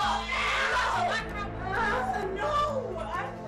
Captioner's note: screaming